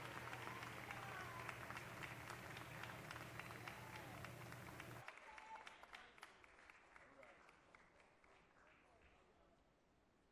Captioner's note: cheers and applause